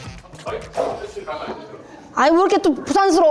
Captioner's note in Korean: 웅성 웅성